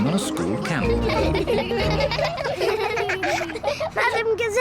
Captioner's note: all giggle